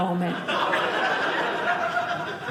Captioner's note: audience laughing